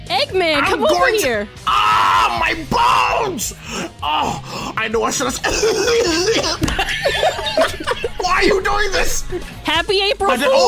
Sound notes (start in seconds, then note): 5.4 loud coughing; 8.5 laughing